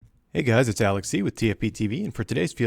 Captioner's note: voiceover